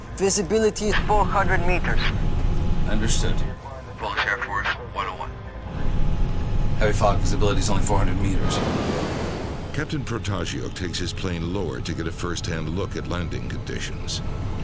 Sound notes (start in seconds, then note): 4.3 man on Radio